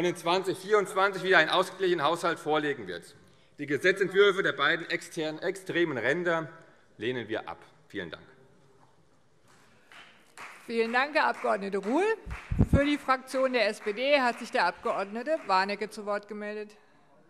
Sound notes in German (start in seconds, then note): 9.9 Beifall CDU und BÜNDNIS 90/DIE GRÜNEN